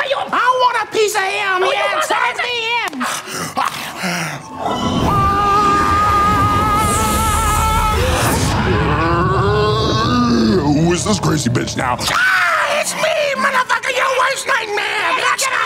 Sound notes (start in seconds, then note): 4.6 air whooshing; 4.6 Esther yelling; 8.9 Satan groaning; 12.1 yells; 15.4 Esther maniacally laughing